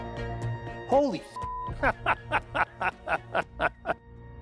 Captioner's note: laughing